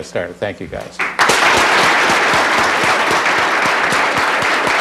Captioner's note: applause